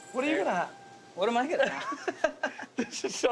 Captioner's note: laughs